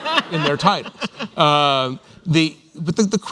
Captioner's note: laughter